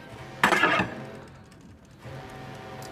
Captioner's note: sword scrape